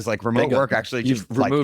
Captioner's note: laughs